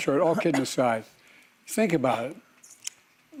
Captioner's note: laughter